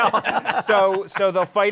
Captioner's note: laughter